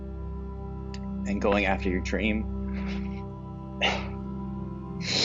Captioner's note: voice breaks